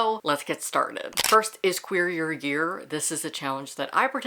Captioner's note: camera shutter